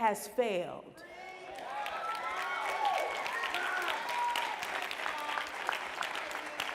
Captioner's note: applause